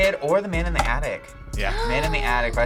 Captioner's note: gasps